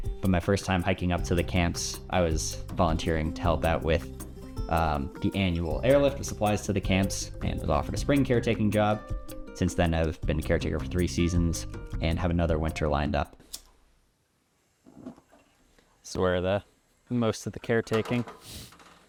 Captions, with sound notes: But my first time hiking up to the camps, I was volunteering to help out with, the annual airlift of supplies to the camps, and I was offered a spring caretaking job. Since then, I've been a caretaker for three seasons and have another winter lined up. [match strikes] [gas hisses] This is where the, the most of the caretaking